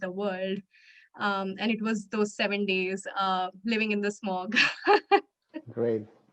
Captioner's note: chuckles